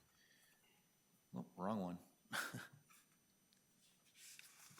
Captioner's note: chuckling